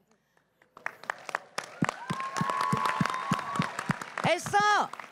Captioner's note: cris et applaudissements